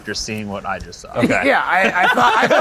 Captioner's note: all laugh